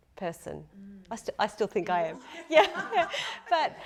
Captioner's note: laughing